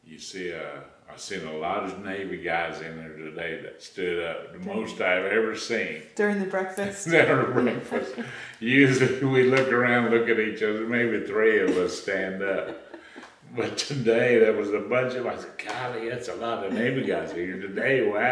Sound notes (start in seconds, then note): 12.5 laughs